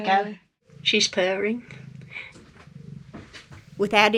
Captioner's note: she's purring